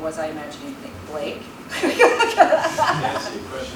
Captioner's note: laughs